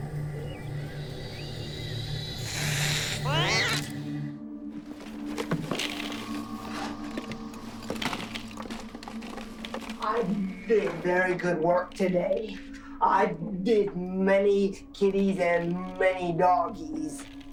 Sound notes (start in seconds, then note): 2.4 hissing, meows